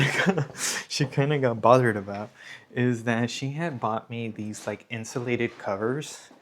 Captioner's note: laughter